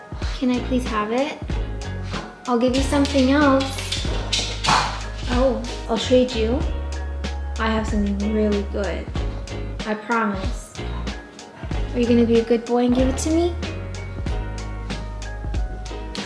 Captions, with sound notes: Can I please have it? I'll give you something else. [Pudge scoffs] Oh. I'll trade you. I have something really good. I promise. Are you gonna be a good boy and give it to me?